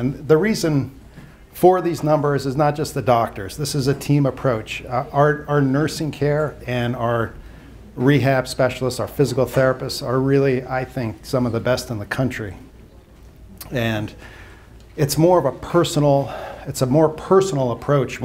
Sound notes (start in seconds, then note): none